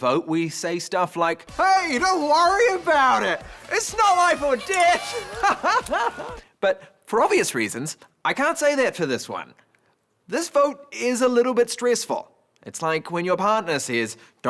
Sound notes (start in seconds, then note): 5.4 laughing